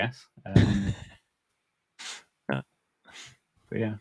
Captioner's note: laughing